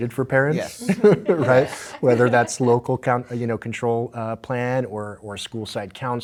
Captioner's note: laughter